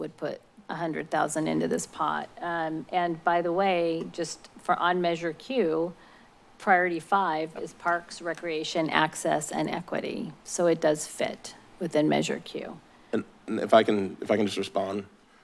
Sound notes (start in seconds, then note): none